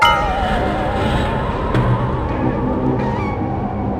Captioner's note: spooky sounds